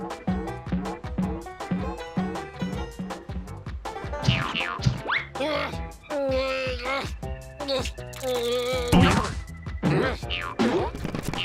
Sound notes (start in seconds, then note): 0.3 pumpkin boinging; 4.2 boing boing; 5.5 straining